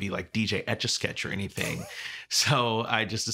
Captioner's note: chuckling